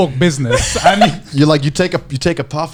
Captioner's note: laughing